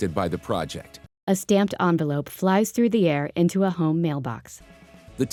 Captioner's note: voiceover